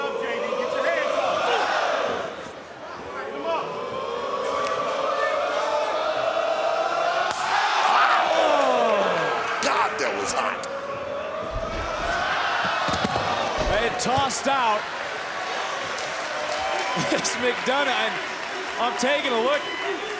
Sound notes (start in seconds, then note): 5.0 crowd oohing